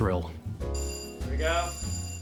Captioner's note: ringing bell